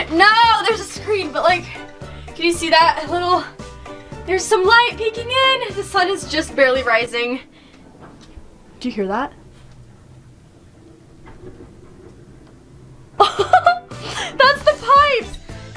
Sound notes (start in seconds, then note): 9.9 pipes rumbling; 13.2 laughter